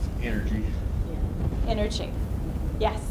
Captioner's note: voiceover